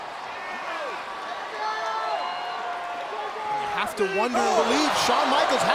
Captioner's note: crowd chattering